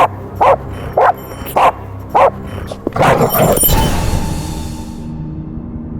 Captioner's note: dog barking